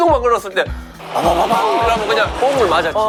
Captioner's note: engine ON